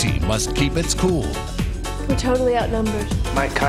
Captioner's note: voiceover